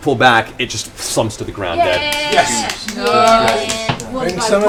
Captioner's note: cheering